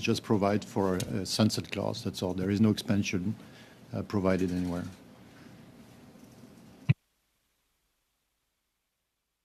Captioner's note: speaking French